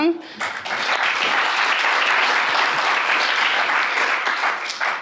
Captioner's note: audience clapping